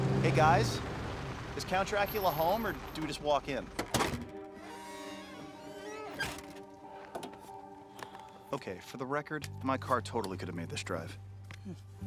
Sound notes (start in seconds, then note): 3.8 door squeaks